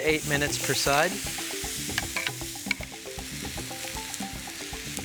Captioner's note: sirloin sizzling